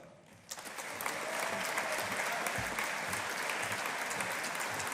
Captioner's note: audience applauding